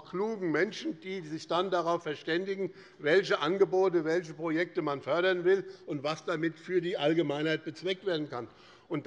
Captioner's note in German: none